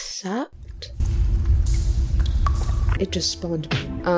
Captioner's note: dripping cavern ambience